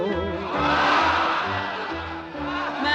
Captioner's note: crowd laughing